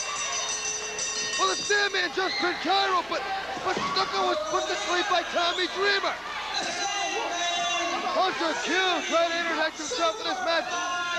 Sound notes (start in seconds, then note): 7.2 bell ringing